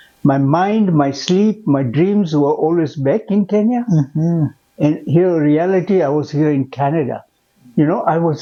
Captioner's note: mmm